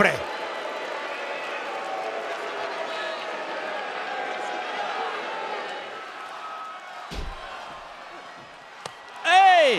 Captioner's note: applause